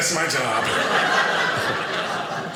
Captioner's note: audience laughing